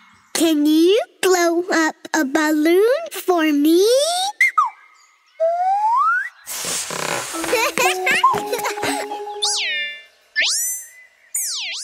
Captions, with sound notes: Can you blow up a balloon for me? [whistles] [chuckles]